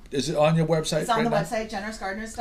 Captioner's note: voiceover